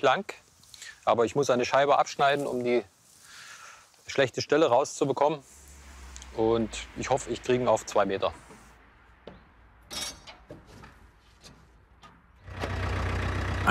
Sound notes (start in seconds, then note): 9.9 clanking; 12.4 engine noise